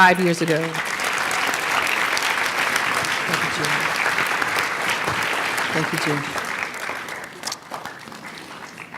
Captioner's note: applause